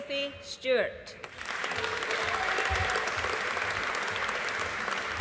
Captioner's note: audience applauding